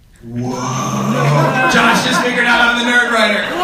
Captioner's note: people laugh